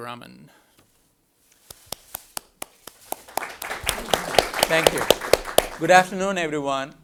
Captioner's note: applause